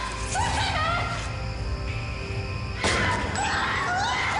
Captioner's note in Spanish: Gritos de ellas; Disparo